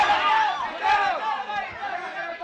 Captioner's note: chatter